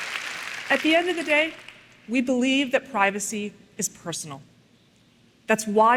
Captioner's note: applause